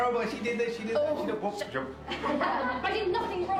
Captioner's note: laughter